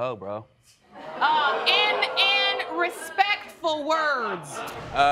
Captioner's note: audience laughing